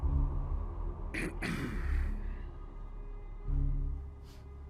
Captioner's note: governor clears throat